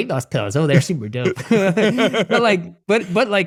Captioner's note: everyone laughing